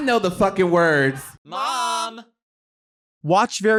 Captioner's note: voices